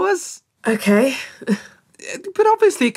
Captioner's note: disappointed laughter